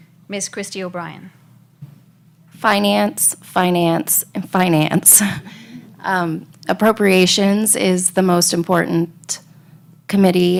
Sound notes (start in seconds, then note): 5.3 laughs